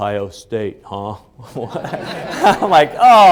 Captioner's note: laughing